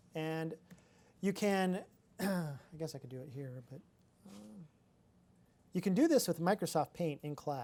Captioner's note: clears throat